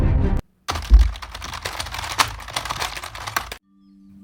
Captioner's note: intense troll duel sounds